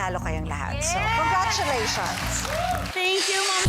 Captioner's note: audience cheering